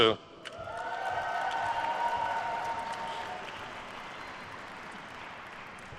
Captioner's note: attendees cheering and applauding